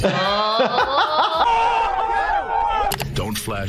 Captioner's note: laughing; crowd yelling